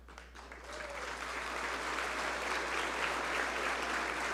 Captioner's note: audience applaud